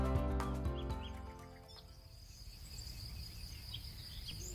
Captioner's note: birds chirping